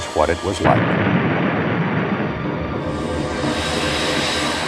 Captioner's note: explosion booming